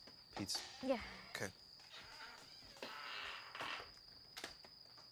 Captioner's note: door creaks; crickets chirping